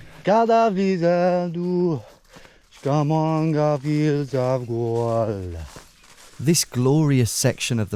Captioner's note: humming